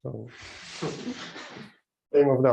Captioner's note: laughter